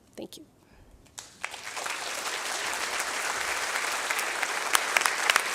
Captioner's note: applause